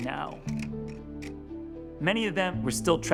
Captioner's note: slide shifting